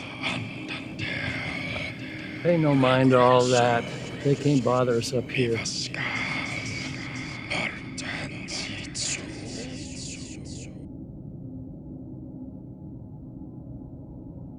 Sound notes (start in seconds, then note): 6.8 voices whispering